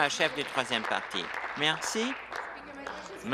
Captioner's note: applause